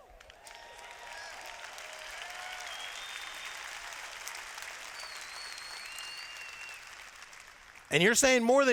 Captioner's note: cheers